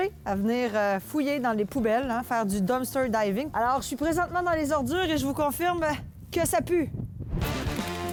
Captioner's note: more commentary in french